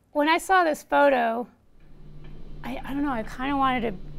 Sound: clock ticks

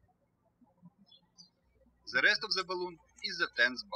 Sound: birds chirping

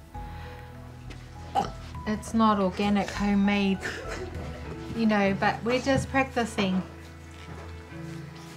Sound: burps

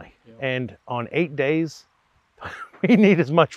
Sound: chuckles

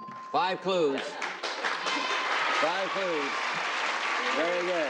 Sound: applauding

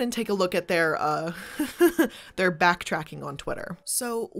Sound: laughs

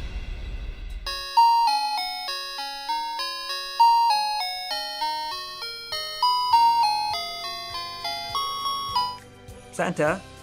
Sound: phone ringing

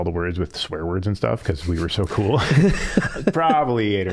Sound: both laughing

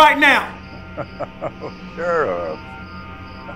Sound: laughs

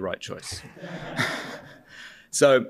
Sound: laughter

